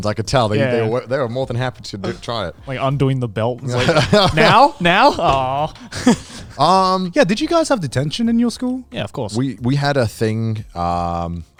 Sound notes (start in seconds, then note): 3.7 laughing